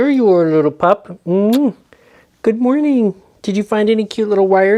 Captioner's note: kisses